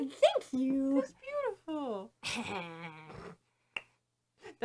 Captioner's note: chuckles self-assuredly